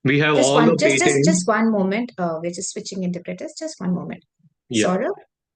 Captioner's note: ISL interpreter speaking